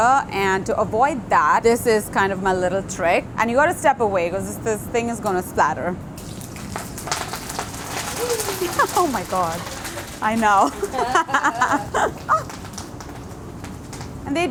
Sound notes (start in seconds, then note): 6.2 oil splattering; 10.7 laughing